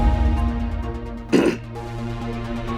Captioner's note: clears throat